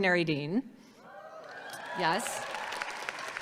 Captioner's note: audience cheers; audience cheers and applauds